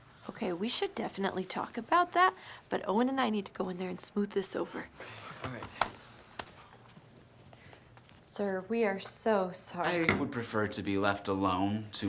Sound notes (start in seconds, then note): 5.4 slapping back